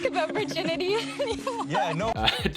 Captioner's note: laughing